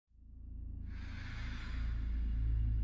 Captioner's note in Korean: 심호흡